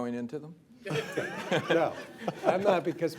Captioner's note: laughter